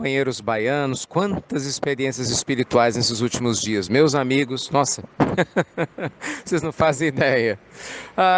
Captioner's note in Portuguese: Risos